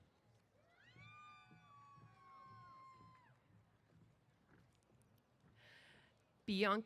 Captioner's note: cheers